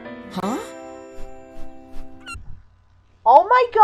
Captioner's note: whooshing, seagull cawing